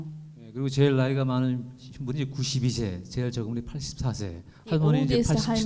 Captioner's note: speaking in foreign language